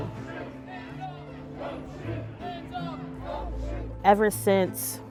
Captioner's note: protesters chanting